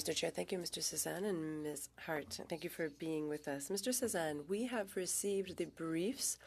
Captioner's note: speaking French